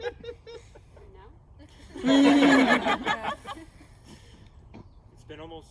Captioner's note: laughter; more laughter